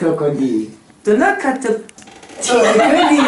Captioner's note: laughs